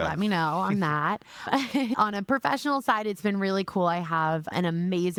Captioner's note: laughing